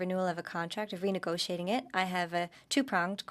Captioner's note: speaking in French